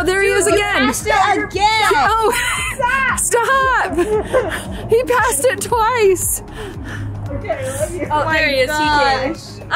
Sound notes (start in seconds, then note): 4.4 laughs; 6.4 laughs